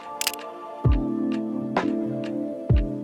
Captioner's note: camera clicks